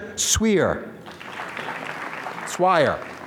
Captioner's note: applause